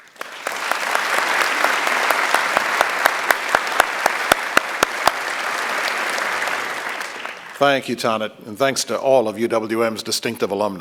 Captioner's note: applause